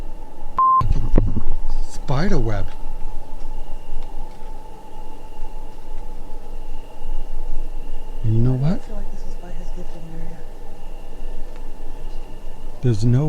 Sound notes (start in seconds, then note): 0.6 beep; 3.5 crickets chirping